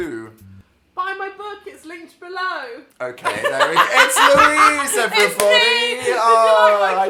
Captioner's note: laughs